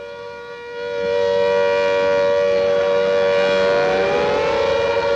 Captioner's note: air raid sirens blaring